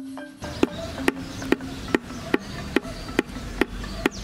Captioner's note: tool tapping